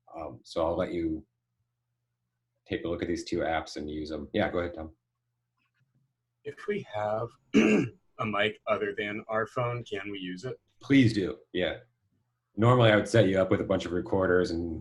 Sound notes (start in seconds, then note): 7.5 clears throat